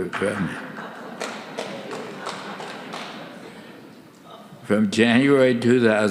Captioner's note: soft laughter; audience applauding